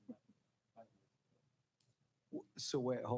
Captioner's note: speaking faintly